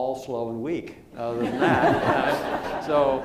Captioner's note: laughter